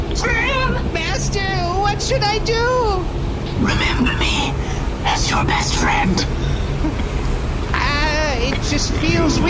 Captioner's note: whispering; nervous